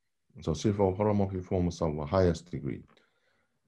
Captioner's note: speaking foreign language